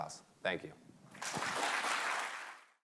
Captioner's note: applause